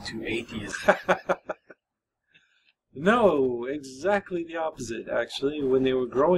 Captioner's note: laughs